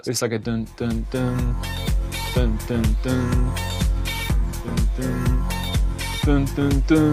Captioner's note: imitates bassline